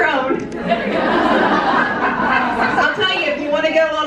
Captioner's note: audience laughing